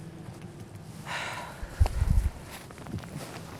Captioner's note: Olivia sighs